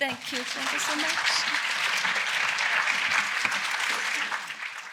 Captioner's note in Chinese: 掌聲